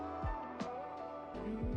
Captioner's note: humming